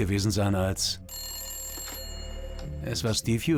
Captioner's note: phone rings